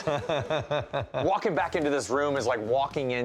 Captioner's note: laughter